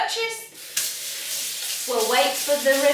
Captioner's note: faucet running